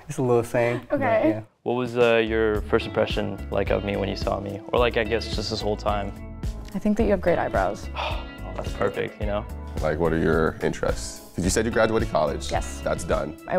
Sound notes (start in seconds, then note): 7.9 sighs